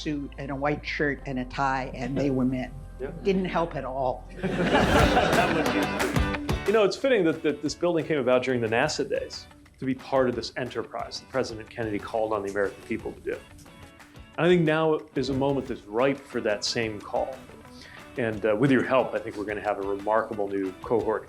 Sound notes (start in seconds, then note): 4.4 laughter